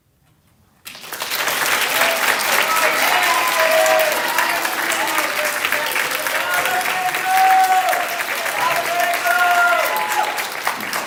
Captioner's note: applause